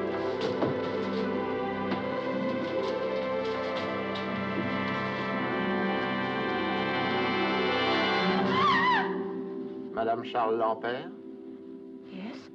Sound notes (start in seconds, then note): 7.7 yelps